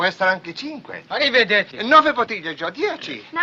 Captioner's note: speaking in italian